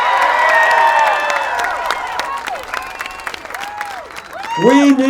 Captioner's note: applause